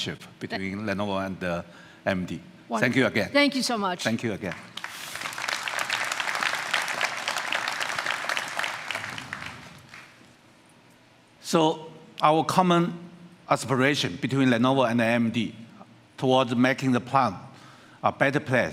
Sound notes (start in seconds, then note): 6.0 applause